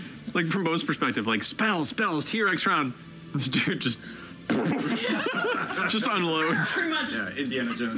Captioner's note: shots firing